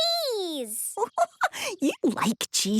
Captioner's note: giggling